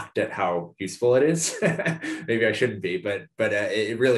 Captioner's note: laugh